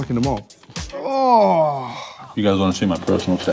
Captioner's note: grunting in disgust